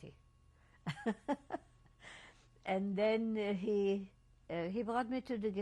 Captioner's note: laughs